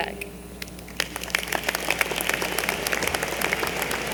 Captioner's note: applause